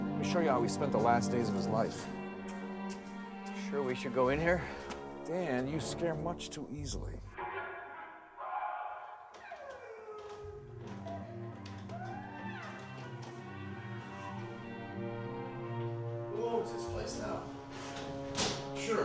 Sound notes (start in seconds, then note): 7.4 screaming; 10.2 woman sobbing